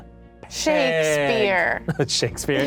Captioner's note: laughs